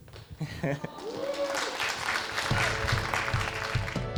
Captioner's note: cheering